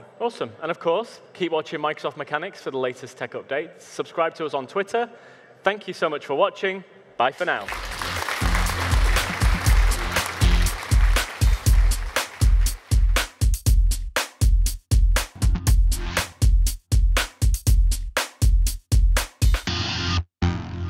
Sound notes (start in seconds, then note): 7.5 audience applauding; 7.8 upbeat music